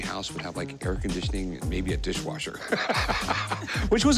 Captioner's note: both laugh